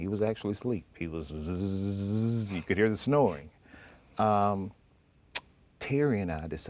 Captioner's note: snoring sounds